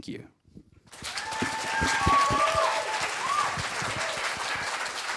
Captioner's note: applause